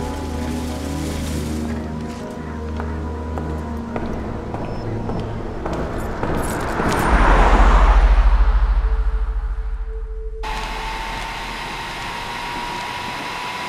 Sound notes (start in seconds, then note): 3.6 footsteps approaching; 10.4 blow dryer roars